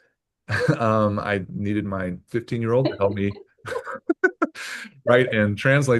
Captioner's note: laughs